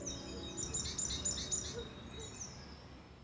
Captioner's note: birds warbling